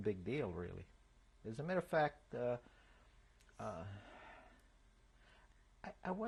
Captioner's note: pauses for 3 seconds